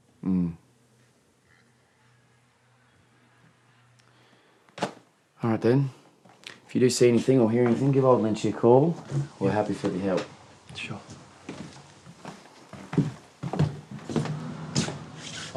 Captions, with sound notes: - Mmm. (distant children shouting) All right, then, if you do see anything or hear anything, give old Lynchie a call. We're happy for the help. - Sure.